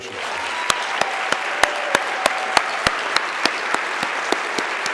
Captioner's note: everybody clapping